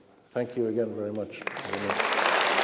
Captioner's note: applause